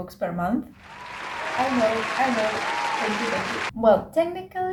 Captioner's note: background Claps